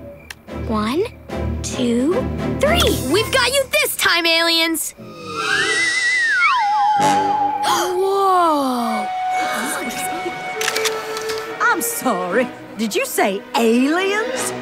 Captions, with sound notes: One, two, three! We've got you this time aliens! [gasps] Whoa! I'm sorry, did you say aliens?